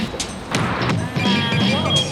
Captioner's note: beeping